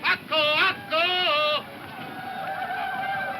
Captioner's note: whooping